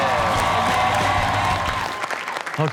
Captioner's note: upbeat rock music; audience cheers